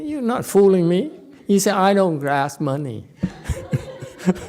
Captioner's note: audience laughs, laughs